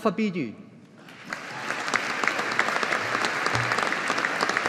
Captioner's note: audience applauding